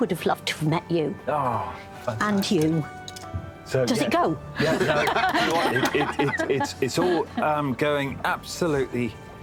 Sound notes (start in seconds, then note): 7.6 laughter